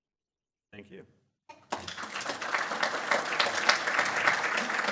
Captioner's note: audience applause